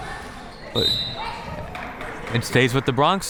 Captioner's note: whistle tweeting